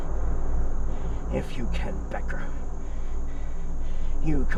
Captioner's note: panting